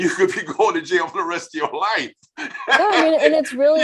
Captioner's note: laughing